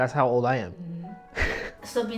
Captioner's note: laughs